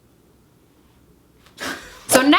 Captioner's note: both laugh